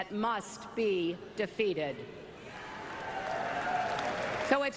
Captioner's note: cheers and applause